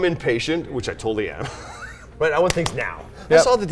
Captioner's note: laughs